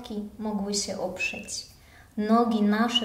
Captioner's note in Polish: none